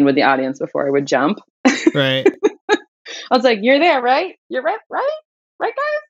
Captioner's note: laughter